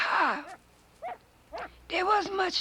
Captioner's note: dog barking